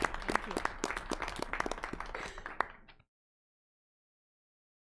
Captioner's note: everyone clapping